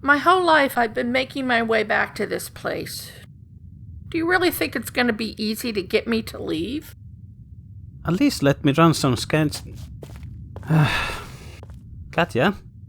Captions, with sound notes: My whole life I’ve been making my way back to this place. Do you really think it’s going to be easy to get me to leave? At least let me run some scans— [He sighs] Katja?